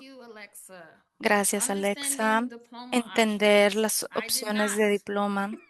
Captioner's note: speaking spanish